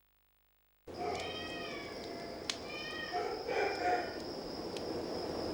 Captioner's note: cats and dogs in the distance